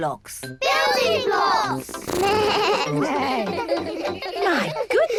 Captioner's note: all laugh